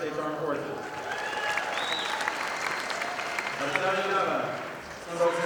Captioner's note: audience applauding